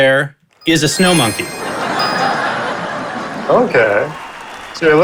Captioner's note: crowd laughing